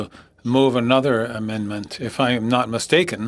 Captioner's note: speaking French